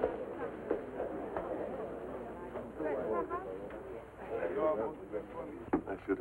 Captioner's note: indistinct chatter of guests